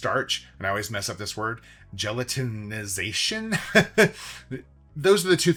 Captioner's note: laughs